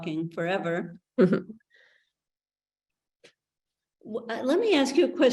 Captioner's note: chuckles